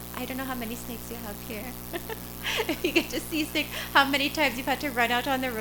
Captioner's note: laughter